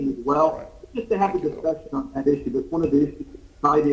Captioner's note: sounding gavel